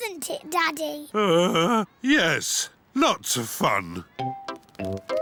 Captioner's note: groans